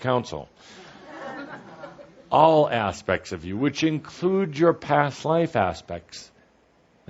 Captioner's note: some laughter